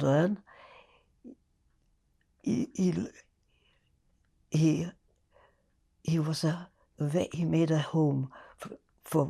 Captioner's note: pauses 6 seconds